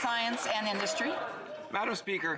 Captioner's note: applause